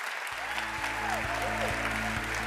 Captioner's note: applause